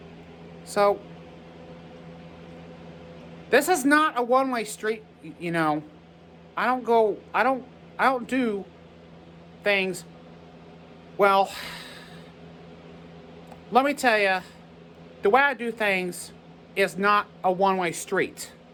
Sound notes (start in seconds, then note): 9.4 stammers